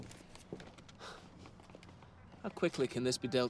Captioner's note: exhales sharply